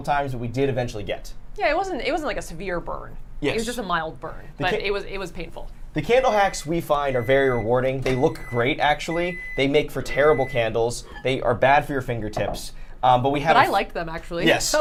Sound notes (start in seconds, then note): 6.4 microwave beeping